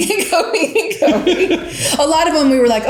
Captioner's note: both laugh